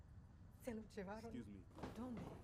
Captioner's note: speaking spanish